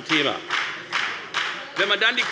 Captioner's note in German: Beifall bei der FDP